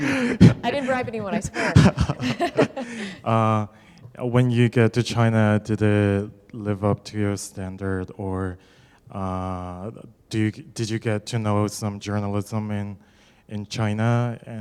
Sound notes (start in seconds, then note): 1.9 laughter